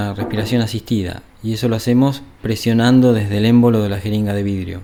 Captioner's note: mechanical ventilation